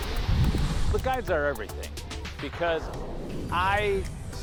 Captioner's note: skis swishing